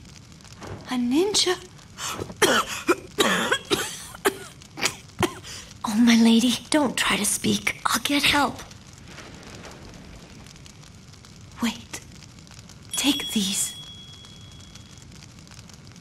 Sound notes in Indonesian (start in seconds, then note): 2.0 Batuk